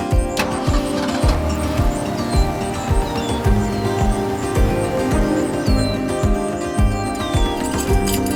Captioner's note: engine starting, birds chirping